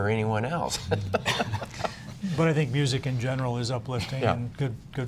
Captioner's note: laughter